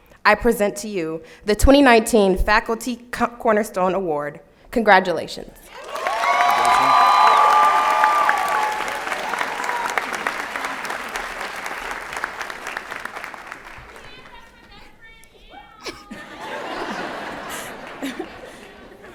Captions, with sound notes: I present to you the 2019 Faculty Cornerstone Award. Congratulations. [ Applause and Cheering ]